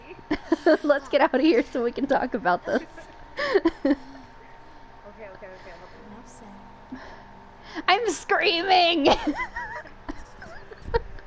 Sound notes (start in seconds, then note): 2.6 laughs; 2.7 shared laughter; 5.1 laughing; 9.1 giddy laughter between the two